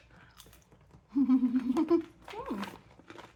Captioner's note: giggling